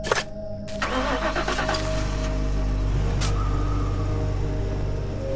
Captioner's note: engine starting